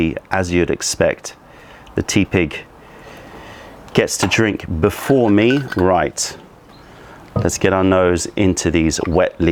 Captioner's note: pouring tea